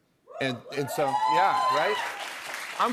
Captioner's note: cheers and applause